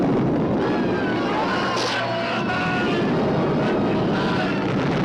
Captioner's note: all screaming